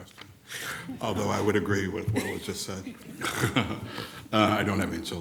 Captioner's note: chuckles